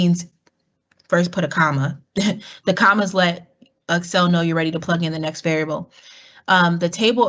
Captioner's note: laugh